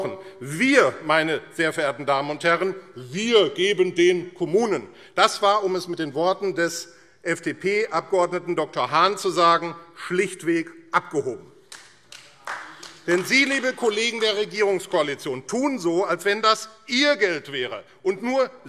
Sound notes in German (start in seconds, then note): 11.7 Beifall AfD